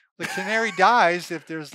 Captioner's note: laughs